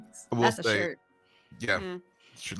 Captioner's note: chuckles